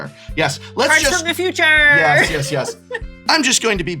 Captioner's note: laughs